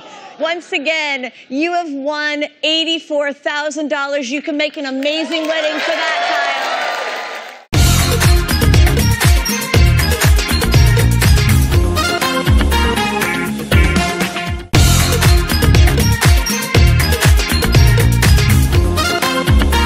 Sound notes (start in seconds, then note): 5.2 cheering